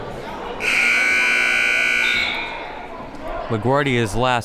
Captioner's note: buzzer blares